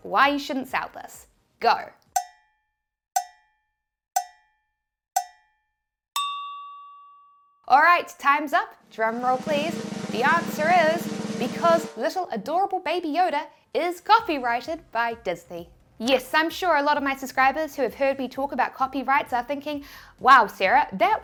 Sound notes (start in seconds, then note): 2.5 clock ticking; 6.2 bell dings